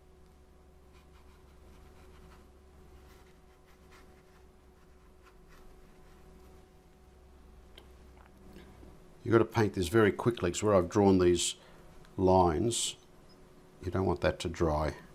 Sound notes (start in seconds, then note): 6.5 silence